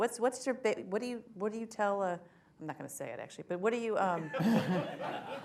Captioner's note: laughter